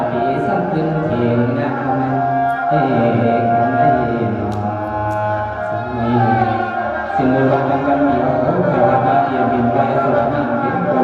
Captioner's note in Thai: ปรบมือ